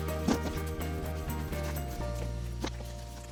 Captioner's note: rustling